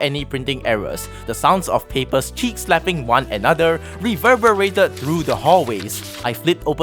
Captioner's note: paper sfx